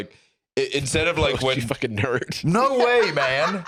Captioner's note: laughing